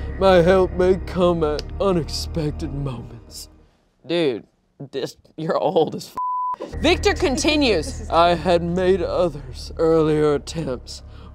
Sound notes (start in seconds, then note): 6.2 beep